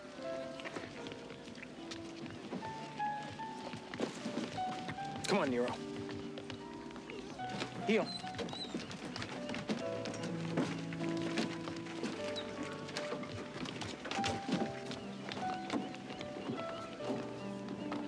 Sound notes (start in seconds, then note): 0.2 emotional music; 7.4 Nero whining